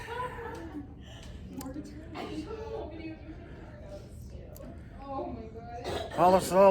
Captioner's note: Students at Purdue Fort Wayne's Neff Hall chattering